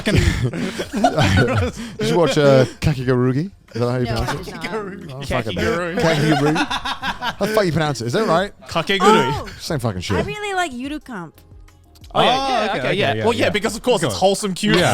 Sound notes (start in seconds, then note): 4.8 laughs